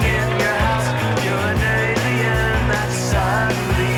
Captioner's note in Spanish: Silbidos